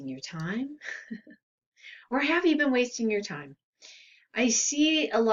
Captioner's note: laughs